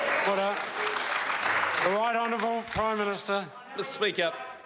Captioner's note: members applaud